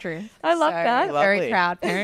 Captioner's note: laughing